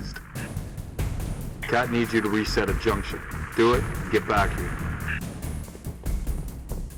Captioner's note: radio